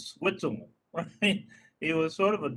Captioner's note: laughing